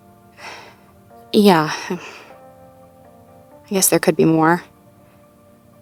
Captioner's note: sighs